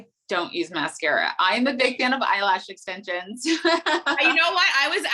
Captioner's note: laughing